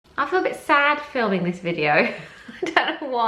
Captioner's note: laughs